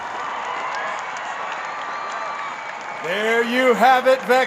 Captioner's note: crowd cheering